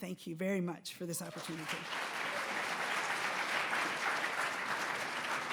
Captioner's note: audience applauds